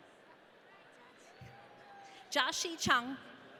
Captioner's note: audience cheering